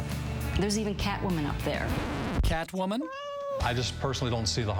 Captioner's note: cat mews